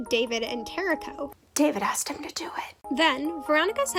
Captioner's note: whisper